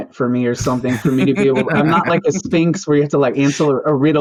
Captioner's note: laughter